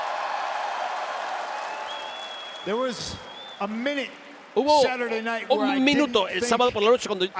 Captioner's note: applause